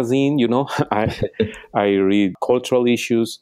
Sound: laughing

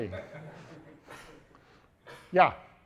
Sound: audience members laughing

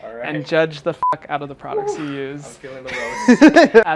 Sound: beep; laughs

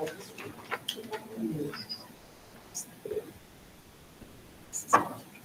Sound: panelists chattering

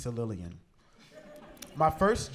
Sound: laughter

